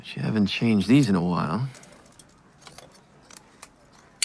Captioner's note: scissors snipping